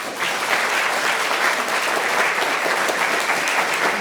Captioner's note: applause